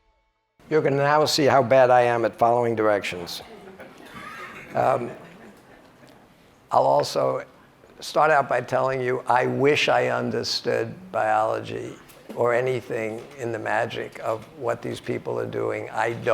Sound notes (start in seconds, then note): 3.4 audience laughs